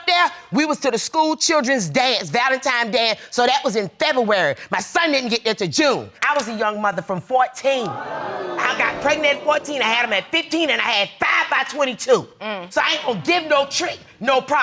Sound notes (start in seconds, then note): 5.9 audience gasping